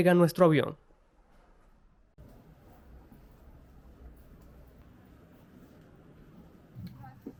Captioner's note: airport sounds